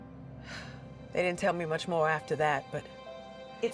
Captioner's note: sighs